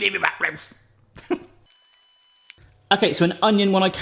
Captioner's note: laughing